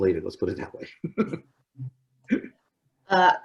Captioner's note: laughs